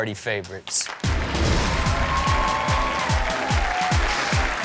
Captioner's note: audience cheering and clapping; upbeat music